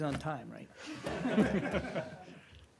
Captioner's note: laughter